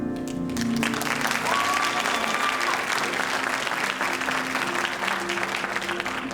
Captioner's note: audience applauding and cheering